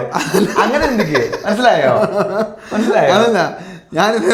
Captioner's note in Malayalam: പൊട്ടിച്ചിരി